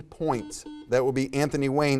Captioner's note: buzzer beeps